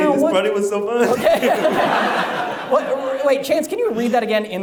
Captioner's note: audience laughs